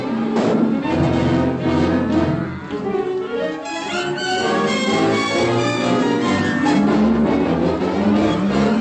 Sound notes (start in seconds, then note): 0.0 dramatic music; 1.1 cattle mooing